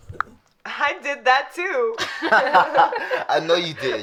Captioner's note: group chuckling